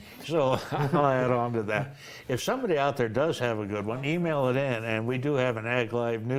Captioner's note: laughter